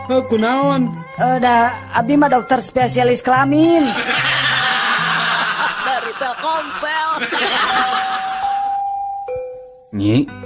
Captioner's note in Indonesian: tertawa